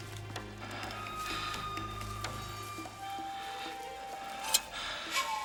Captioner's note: man breathing heavily